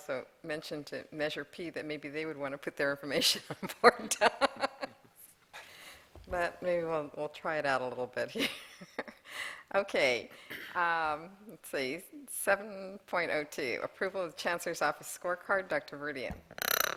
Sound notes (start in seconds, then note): 0.0 laughter; 6.1 laughter